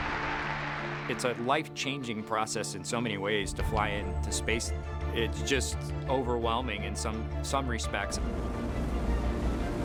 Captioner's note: applause